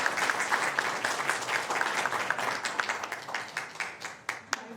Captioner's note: applause